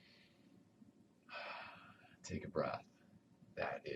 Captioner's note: exhales